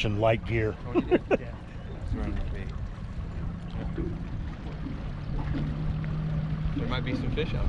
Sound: chuckling

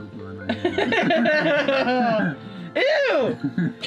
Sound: laughs

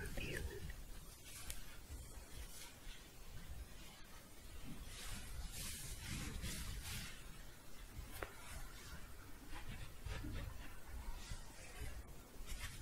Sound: shuffling and scratching

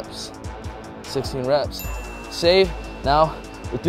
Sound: bell dings

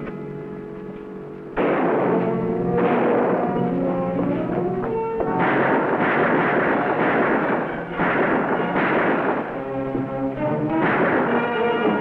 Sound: guns firing

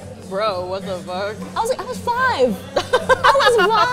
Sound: laughs

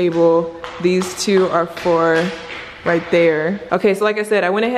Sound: shoes pattering

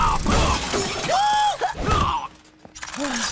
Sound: thudding; grunting

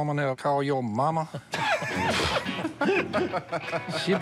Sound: laughing

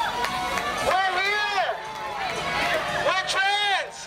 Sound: voiceover

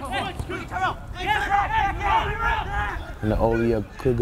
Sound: players talking and yelling

